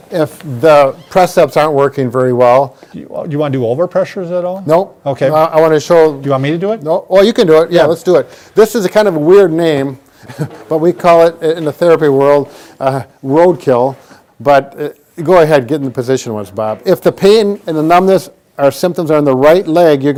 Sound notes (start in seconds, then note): 10.1 chuckles